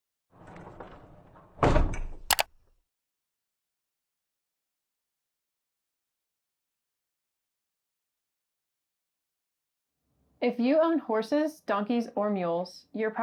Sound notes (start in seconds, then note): 0.4 door clunks; 2.3 mouse clicks